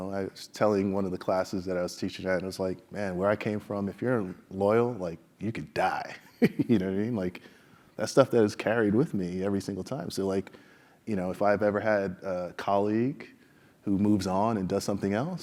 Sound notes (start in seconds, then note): 6.3 laugh